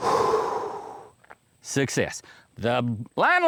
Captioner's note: exhaling